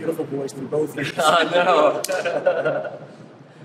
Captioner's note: laughs